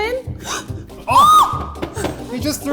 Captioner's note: squeals